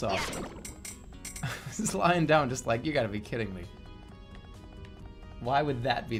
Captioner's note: chuckling